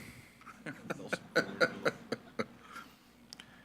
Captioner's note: laughing